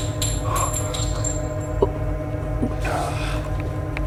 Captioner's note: pained growl, bullet clatters to the ground; Candice gagging quietly